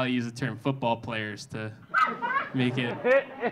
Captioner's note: audience laughing